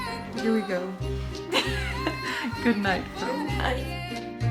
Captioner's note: she laughs